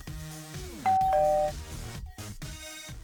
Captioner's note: ding